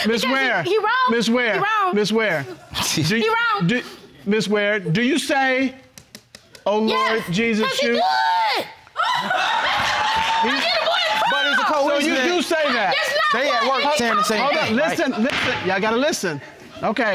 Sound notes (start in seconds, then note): 9.0 audience laughing; 13.5 shouting